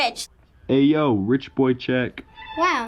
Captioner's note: voice-over; regal classical music